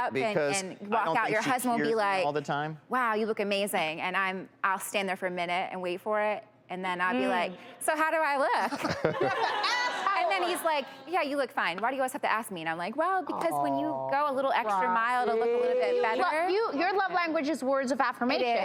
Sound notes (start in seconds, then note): 8.6 laughing